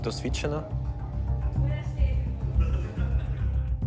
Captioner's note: team chattering